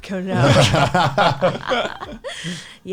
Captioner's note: laughs